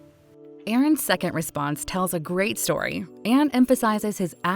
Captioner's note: voiceover